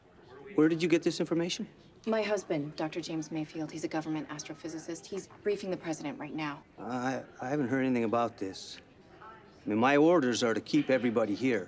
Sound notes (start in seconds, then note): none